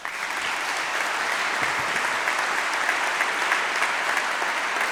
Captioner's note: audience applauding